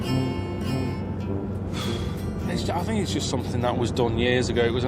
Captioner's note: huffs